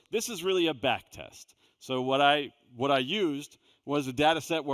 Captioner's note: none